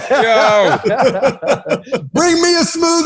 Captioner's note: laughter